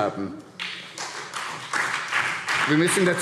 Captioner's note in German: Beifall SPD